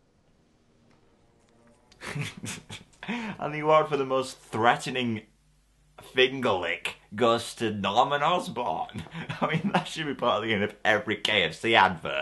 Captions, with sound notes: [Suspect laughs] And the award for the most threatening... fingerlick goes to Norman Osborn I mean, that should part of the end of every KFC advert